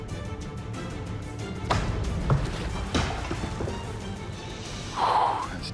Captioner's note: knife slams